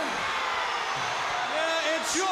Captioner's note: crowd cheering